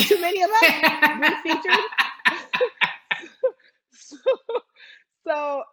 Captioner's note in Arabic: تضحك